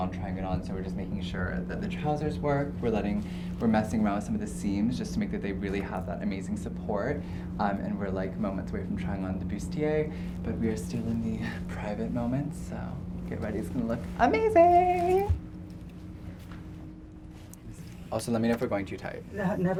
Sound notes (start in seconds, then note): 15.7 squeals